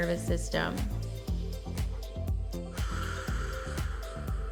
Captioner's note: exhales; inhales